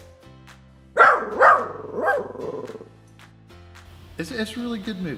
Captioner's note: dog barks